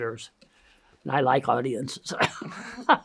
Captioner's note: laughs